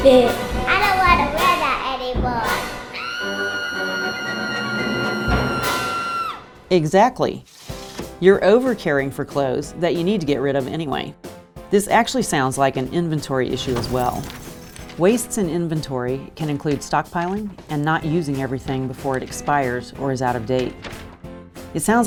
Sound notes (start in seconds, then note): 2.9 screams in frustration